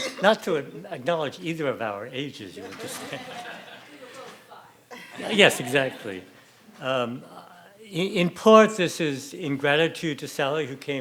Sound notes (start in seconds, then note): 2.6 audience laughing